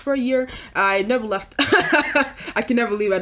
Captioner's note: laughs